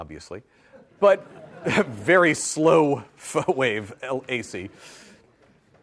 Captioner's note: audience laughs